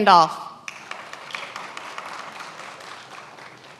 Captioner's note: many applauding